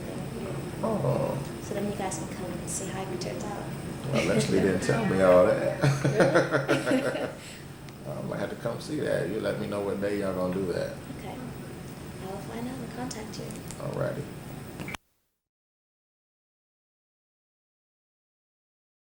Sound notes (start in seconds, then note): 5.7 both laugh